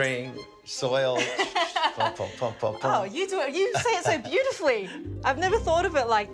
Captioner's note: laughs